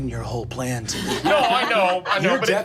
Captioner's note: group laughing